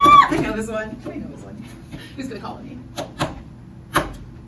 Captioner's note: squeals